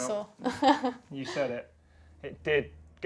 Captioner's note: laughs